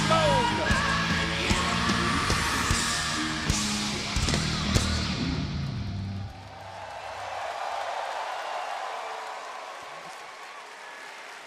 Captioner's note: crowd cheering